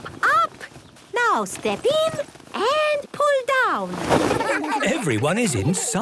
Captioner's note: laughter